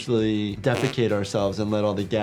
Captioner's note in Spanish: zumbido de flatulencia